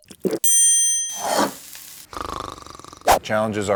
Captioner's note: gulps; dings; plate scrapes on wood; snores lightly